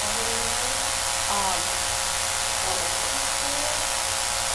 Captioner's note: buzzing drowns out speaker